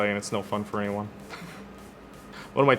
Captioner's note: laughing